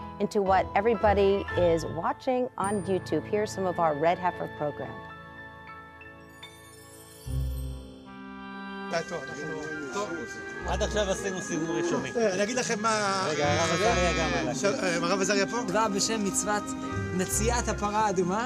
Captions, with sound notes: into what everybody is watching on YouTube. Here's some of our red heifer program. [men speaking in Hebrew]